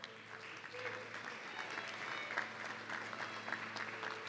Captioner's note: audience clapping